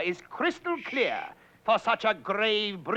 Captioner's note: shushing